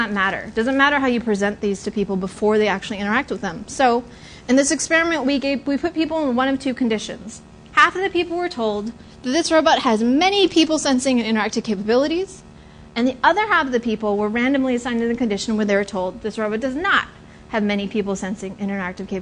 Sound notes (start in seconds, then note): none